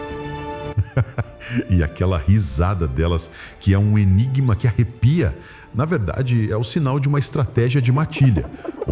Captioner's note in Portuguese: risos